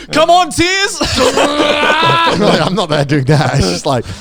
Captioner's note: moaning